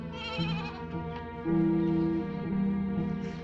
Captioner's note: goat bleating